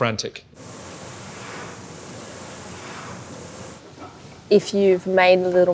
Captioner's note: SkiErg machine whirring